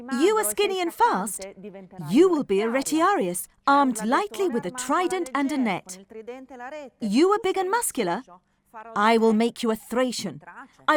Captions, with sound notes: You were skinny and fast. You will be a (speaking in foreign language) armed likely with a Trident and a net. You are big and muscular. I will make you a Thracian.